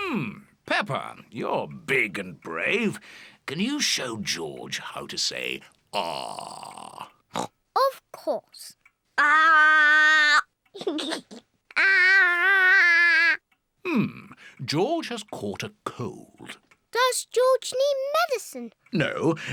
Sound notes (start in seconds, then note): 7.3 oinks; 10.8 giggles